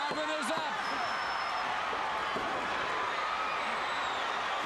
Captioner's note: crowd chattering